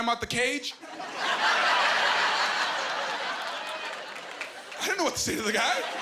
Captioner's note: laughing